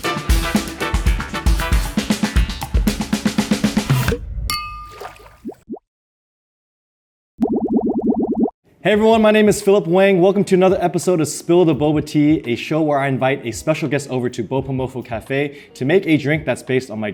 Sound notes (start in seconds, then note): 0.0 upbeat music; 7.4 bubbles popping